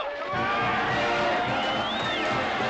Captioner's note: cheering